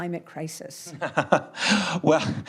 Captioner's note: Tony laughs